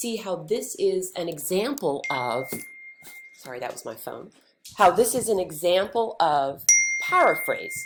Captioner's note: ding!